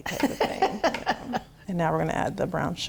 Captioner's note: laughing